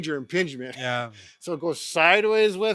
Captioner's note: chuckling